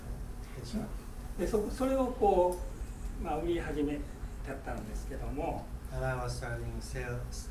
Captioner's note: speaking in foreign language